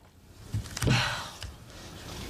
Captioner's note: sigh